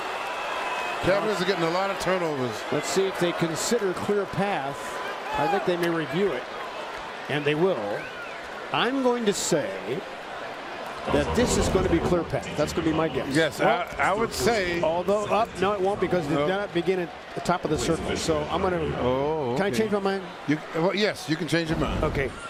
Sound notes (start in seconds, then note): 2.6 cheers and applause